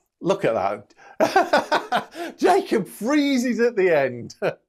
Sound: laughs

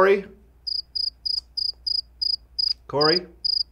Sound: crickets chirping

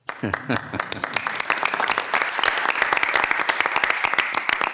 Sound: audience applauding; laughs

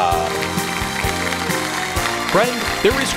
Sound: applause

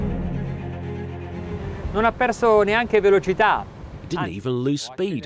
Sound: speaking in Italian

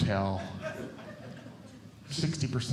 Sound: audience Laughing

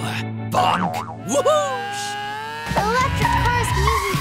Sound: engine whining

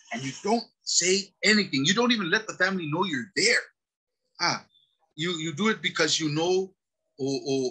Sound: speaks Samoan

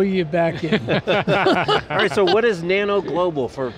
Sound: all laugh

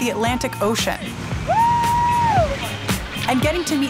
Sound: whooping

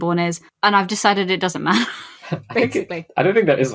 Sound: laughs

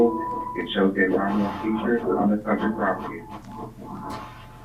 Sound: murmurs

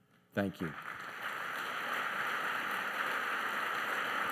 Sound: applause

